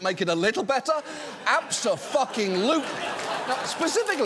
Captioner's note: audience laughs, applauds